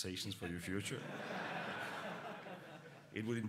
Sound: laughter

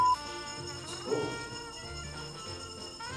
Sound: bell ringing

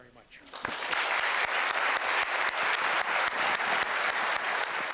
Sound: applause

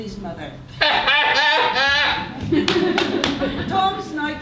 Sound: laughing

